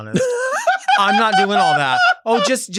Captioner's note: Sapphira laughs